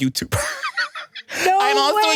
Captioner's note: laughs